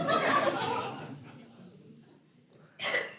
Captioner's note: laughter